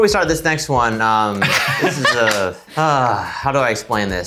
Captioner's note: laughing